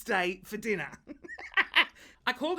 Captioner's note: laughs